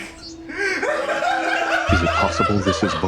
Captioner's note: and friends laughing